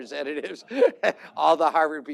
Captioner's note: laughter